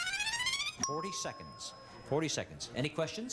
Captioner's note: bell dings